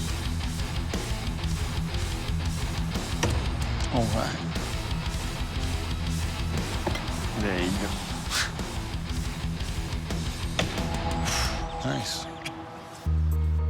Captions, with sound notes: [thump] Oh my. There you go. [bang] Nice.